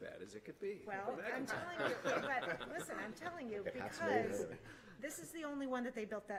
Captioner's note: laughter